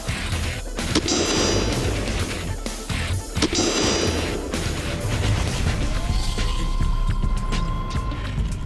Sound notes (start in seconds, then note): 0.8 slow-motion gunshots